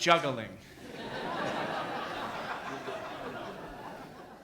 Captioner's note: audience laughs